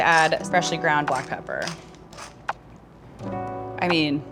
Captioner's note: pepper mill grinding; light jazz music